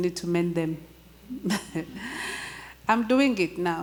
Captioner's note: chuckles